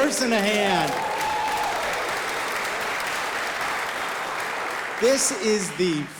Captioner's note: audience applauding